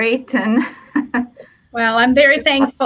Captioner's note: laugh